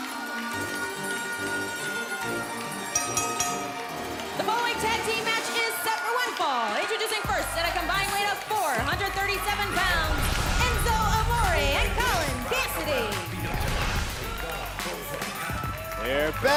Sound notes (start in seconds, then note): 4.4 bell ringing